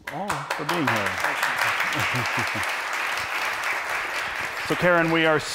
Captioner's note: applause